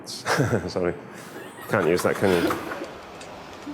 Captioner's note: laughter